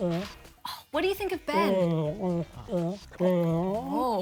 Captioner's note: grunts